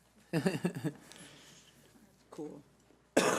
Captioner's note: laughing